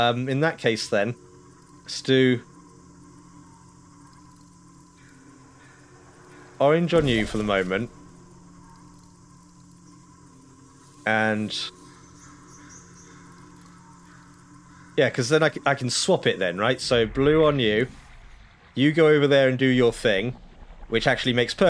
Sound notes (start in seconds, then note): 11.4 birds chirping